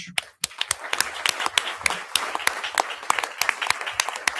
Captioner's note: audience applauding